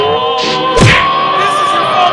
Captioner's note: crash!